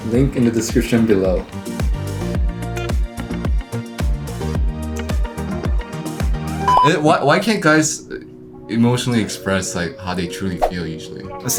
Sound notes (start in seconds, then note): 6.6 beep